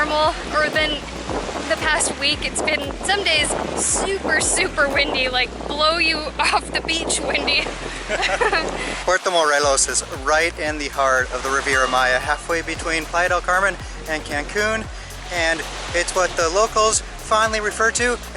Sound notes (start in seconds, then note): 7.9 laughter